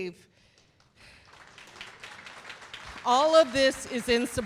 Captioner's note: applause